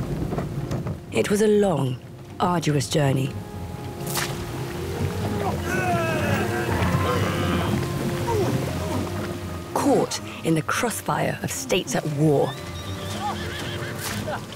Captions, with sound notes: It was a long, arduous journey (men groaning) Caught in the crossfire of states at war